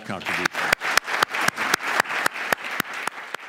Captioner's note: clapping